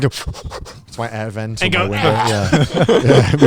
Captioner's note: choking sounds; everyone laughing; heavy breathing